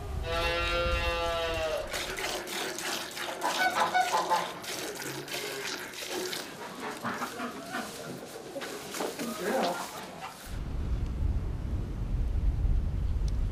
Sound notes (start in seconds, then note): 4.6 milk squirting; 6.0 clucking, honking